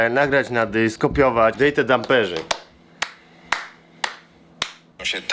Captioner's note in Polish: klaskanie